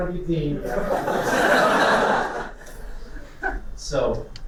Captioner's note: laughter